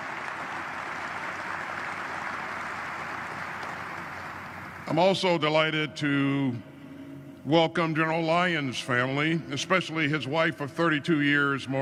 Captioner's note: applause